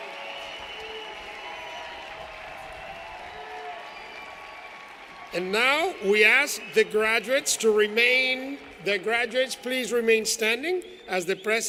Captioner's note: cheers and applause